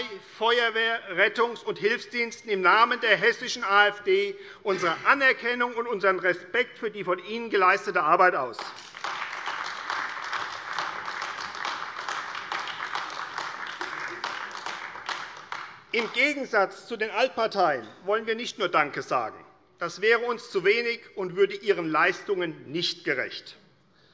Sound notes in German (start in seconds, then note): 10.1 Beifall AfD